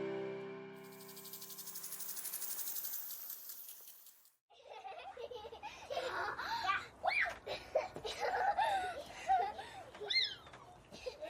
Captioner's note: children playing